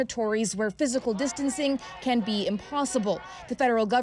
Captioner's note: speaking spanish language